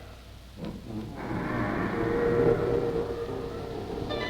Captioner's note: creaking